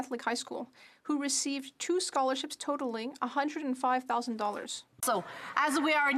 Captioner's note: speaking French